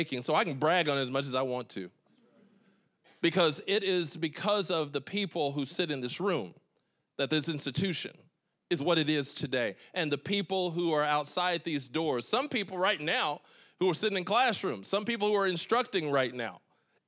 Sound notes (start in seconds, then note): none